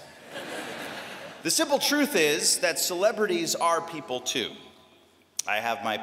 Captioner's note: laughter